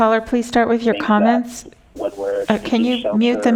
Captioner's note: phone ringing